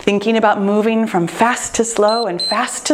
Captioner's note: timer beeps